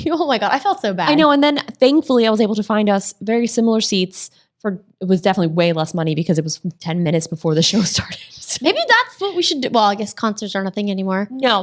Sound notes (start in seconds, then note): 8.7 ladies laughing